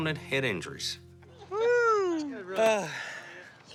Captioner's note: sighing